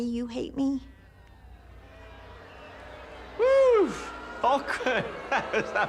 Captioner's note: audience boos